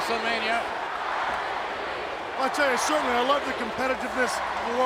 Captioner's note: applause